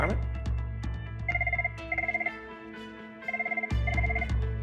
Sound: phone ringing

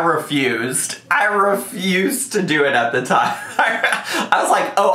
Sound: laughs

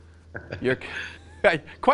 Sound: laughs

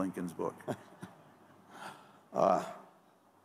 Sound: laughter

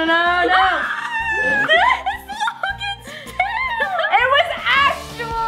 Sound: screaming

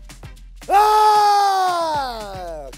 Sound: screaming

